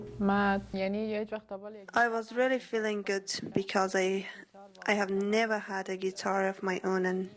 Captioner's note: through translator